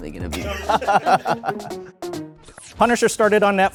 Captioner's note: laughs